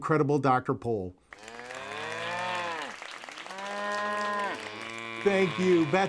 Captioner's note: mooing and applauding